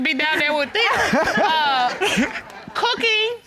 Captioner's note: all laughing